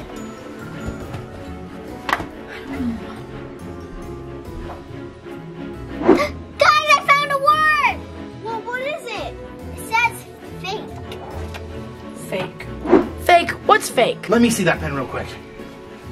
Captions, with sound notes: (gasps) - Guys, I found a word! - Well what is it? - It says fake. - Fake. - Fake. What's fake? - Let me see that pen real quick.